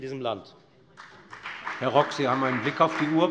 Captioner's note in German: Beifall bei der FDP